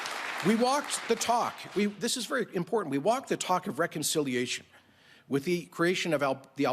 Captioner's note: applause